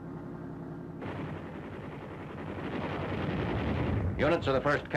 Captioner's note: guns firing